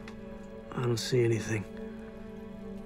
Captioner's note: none